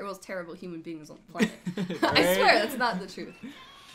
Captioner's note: both laughs